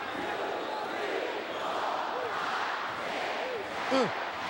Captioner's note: crowd chanting